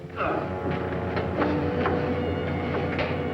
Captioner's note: grunts